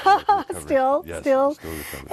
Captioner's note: laugh